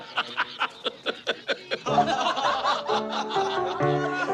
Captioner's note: people talking and laughing